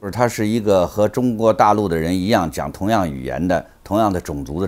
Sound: speaks in Chinese

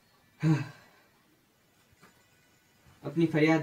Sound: sighs

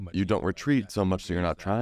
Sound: speaks faintly

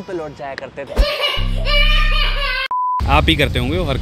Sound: baby is crying

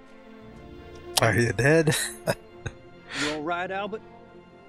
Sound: chuckling

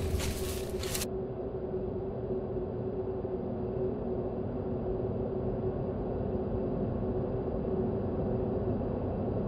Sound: haunting sound

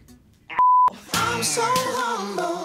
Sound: loud Beep

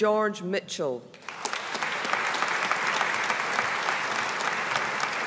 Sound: audience applauding

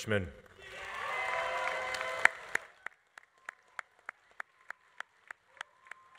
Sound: audience applauding; audience cheering

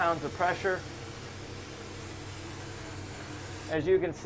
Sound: paint spraying

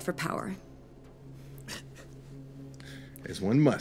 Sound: chuckling

